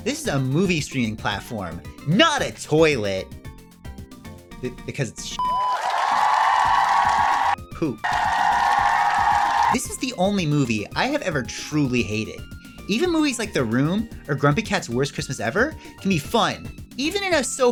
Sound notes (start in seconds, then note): 3.4 crowd cheers; 8.0 crowd cheers louder